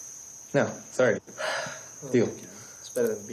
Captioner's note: sighs